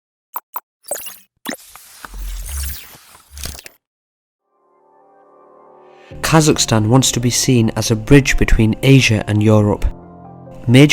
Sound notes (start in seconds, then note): 0.8 bright digital tones